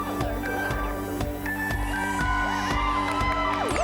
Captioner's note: cheering